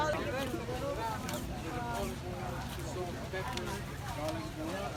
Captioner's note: shoppers chattering